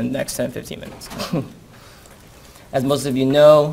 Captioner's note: chuckles